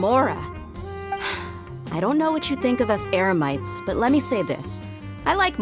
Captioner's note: sigh